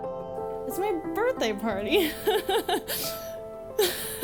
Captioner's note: laughs